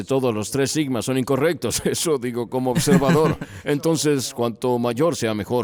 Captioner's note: risas